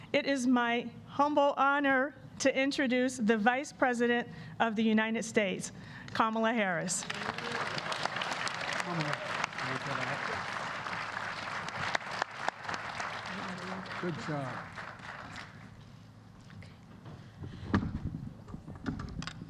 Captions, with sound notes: it is my humble honor to introduce the Vice President of the United States, Kamala Harris. (Applause.)